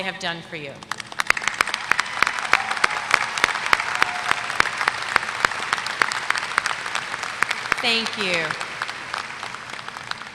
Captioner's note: applause